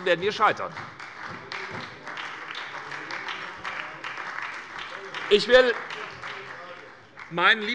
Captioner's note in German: Beifall bei Abgeordneten der SPD